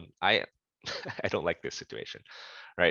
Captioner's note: laughter